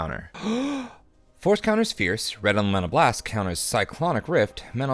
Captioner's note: gasping